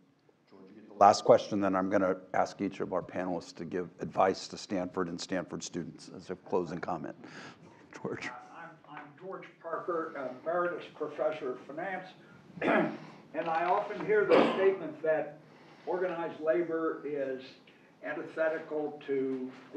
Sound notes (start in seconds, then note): 12.6 cough